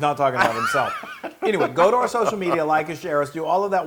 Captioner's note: laugh